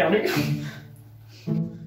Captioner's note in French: Rire en fond